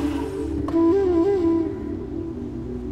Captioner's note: Car door opens